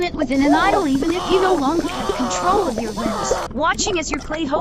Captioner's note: muffled screaming